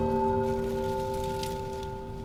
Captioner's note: leaves rustling; gentle music